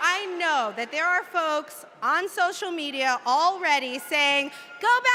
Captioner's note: cheers and applause